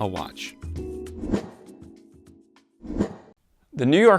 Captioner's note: air whooshing